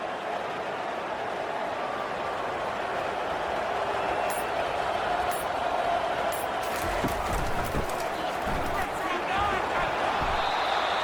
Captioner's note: crowd Noises